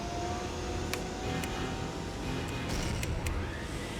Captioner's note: switches Clicking